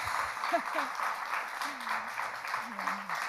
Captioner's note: laughs